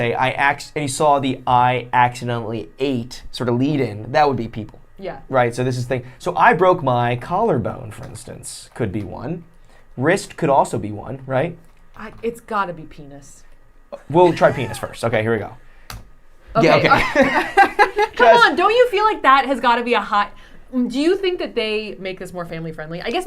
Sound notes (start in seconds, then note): 16.7 laughing